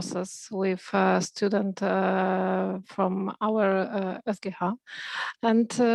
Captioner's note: speaking in foreign language